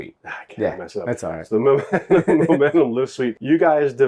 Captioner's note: laughs